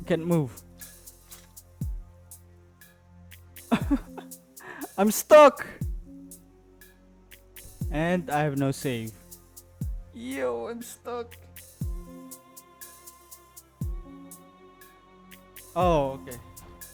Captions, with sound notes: Can't move. [Laugh] I'm stuck! And I have no save. Yo, I'm stuck! Oh, okay.